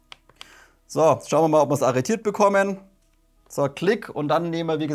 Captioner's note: click